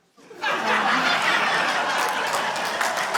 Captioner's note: laughter, applause